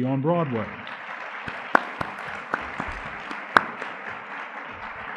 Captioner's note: audience clapping